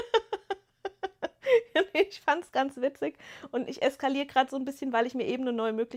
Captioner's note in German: gelächter